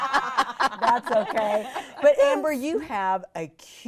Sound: all laughing

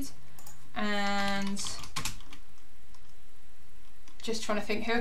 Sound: keyboard clicking

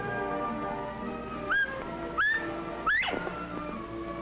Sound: bobwhite call

